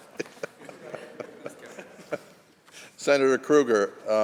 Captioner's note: laughter